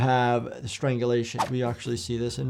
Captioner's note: soft upbeat music plays; audio whooshes